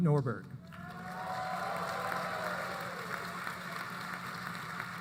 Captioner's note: applause